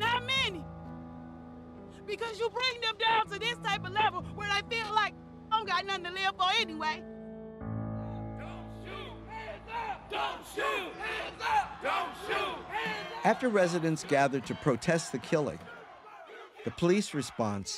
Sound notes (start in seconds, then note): 6.6 somber piano music; 10.3 crowd; 13.1 voiceover